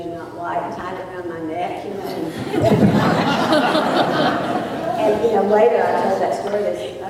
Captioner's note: laughter